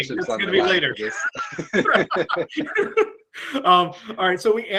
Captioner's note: both laugh